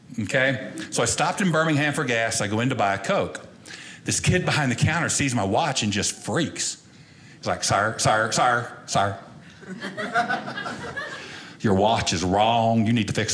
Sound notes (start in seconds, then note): 9.6 audience laughing